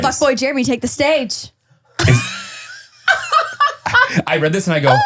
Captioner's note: laughing